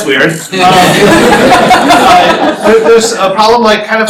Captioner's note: laughter